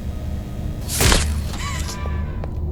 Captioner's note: dramatic music; gun firing; dramatic music; gun firing